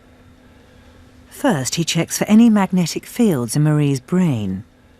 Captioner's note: voiceover